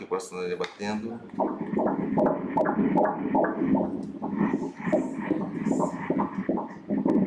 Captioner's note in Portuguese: batimentos cardíacos